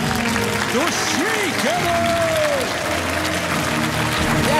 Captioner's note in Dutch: applaus